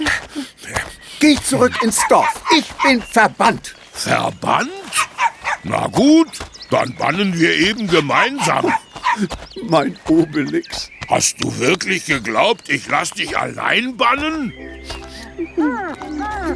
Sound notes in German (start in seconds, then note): 8.9 gelächter